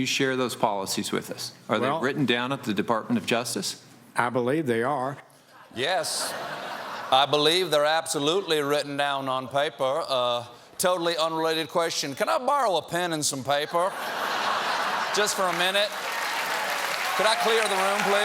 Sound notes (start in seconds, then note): 13.7 laughter